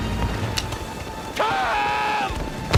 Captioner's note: gun clicks